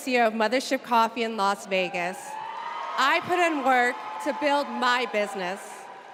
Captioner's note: applause